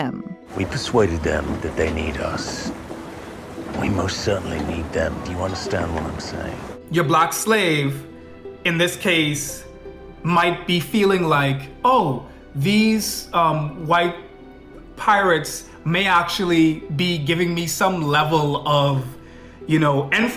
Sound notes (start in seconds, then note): 6.9 foreign